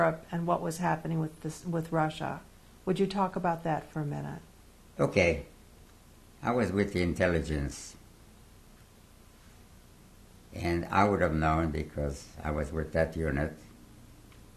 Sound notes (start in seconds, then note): 7.5 pauses for 3 seconds